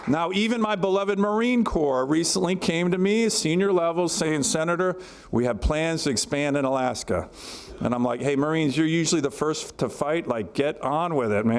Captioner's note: applause